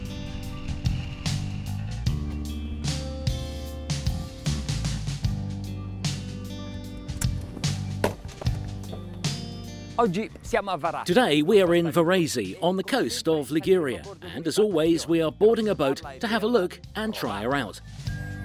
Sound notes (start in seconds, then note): 10.2 speaking foreign language